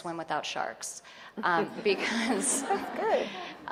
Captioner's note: audience laughing